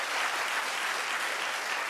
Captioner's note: audience applauding